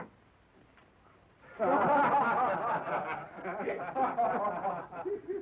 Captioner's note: men laughing